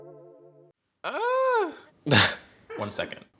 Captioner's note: gasps